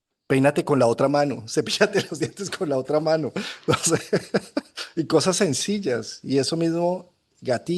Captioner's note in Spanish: risas